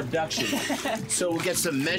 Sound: laughs

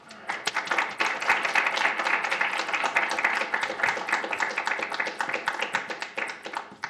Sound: applause

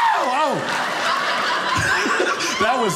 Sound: audience laughing

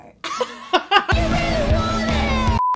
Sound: laugh; rock music

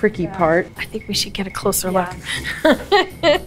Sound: laughs

